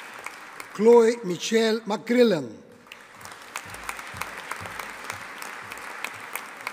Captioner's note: audience applauding